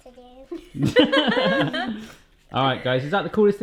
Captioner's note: laughing